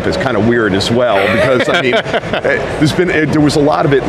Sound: laughs

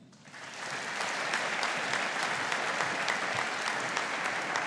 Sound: audience applauding

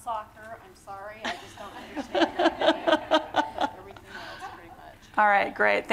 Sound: laughter

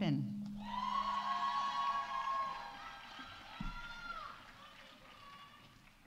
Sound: audience cheering; audience applauding

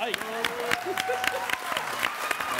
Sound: audience cheering

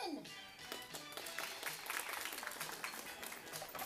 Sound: clapping

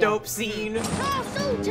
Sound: air whooshing; suspenseful music

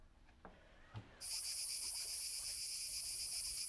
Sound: cicadas buzzing

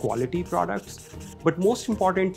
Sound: marker squeaking

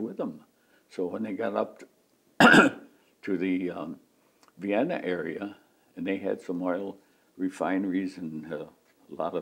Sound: clears throat

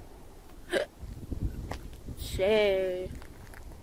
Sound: Destiny hiccups

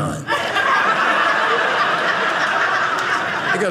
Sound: audience laughing

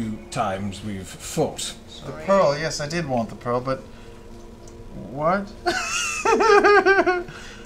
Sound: confused laugh

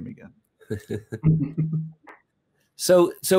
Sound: laughter

